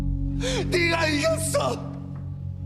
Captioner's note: crying